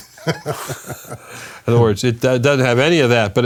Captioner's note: laughs